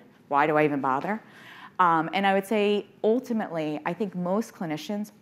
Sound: none

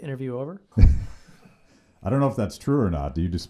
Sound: laughs

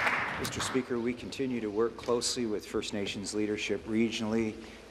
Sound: applause

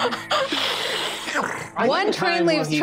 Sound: Carlos hissing

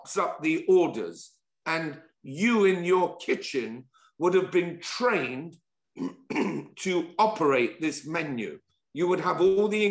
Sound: cough

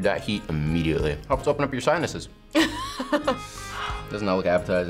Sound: laughs

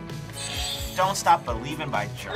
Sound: buzzer rings

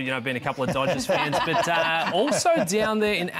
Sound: both laugh

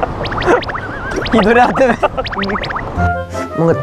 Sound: just laughing

